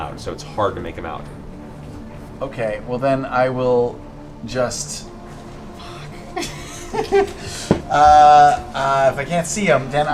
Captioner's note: laughs